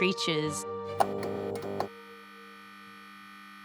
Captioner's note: neon clicks, hums